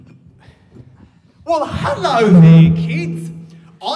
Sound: microphone feedback

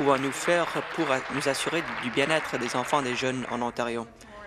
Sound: applause

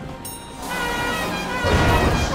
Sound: gaudy horn

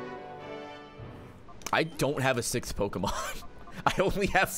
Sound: laughs

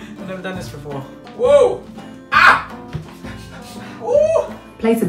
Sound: exclaiming

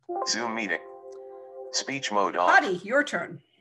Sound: recorded voice

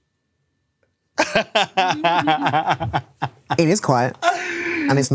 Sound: laughs

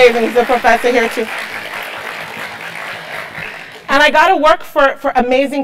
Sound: applause

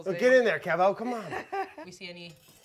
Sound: laughing

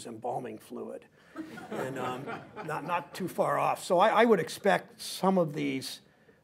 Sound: laughter

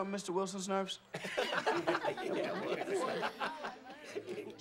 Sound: students snickering

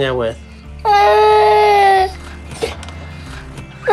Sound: cries

